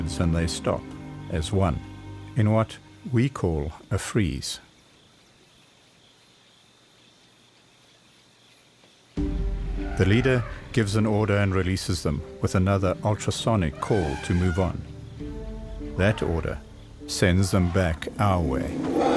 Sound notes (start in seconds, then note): 5.9 insects chirping; 13.6 trumpets